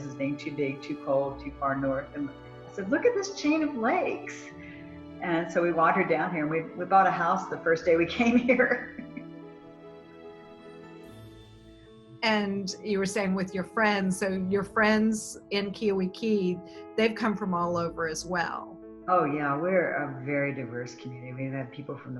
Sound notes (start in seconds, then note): 8.5 laughs